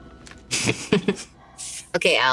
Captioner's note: all laugh